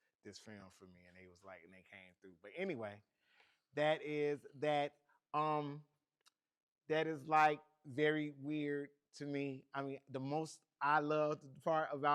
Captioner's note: laughs